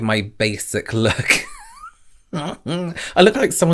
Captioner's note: laughs